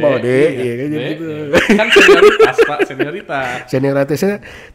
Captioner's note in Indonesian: ketawa